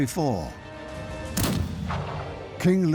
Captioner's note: rifle shot